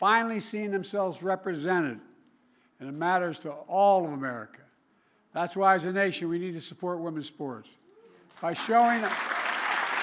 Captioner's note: applause